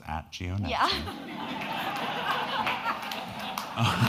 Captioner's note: all laughing